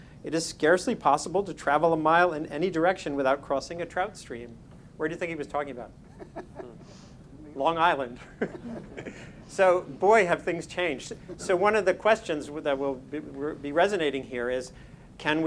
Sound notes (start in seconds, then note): 6.0 panel members laughing; 6.1 everyone laughing